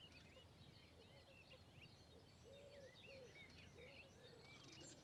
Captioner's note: none